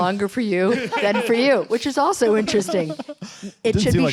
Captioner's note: laughter